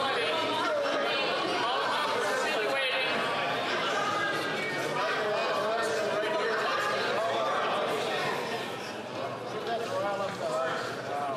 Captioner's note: chatter